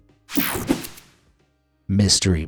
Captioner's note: air whooshing